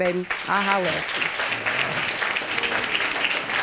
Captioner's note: audience applauding